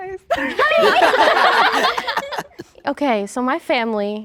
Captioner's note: everyone laughing